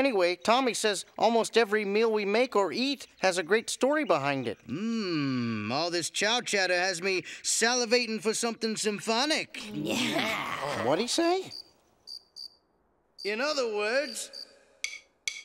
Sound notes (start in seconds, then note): 11.4 crickets chirping